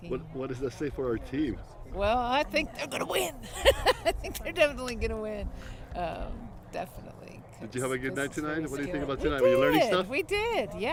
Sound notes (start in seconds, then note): 3.4 laugh